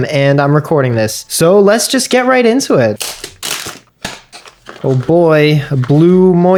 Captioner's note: unboxing noises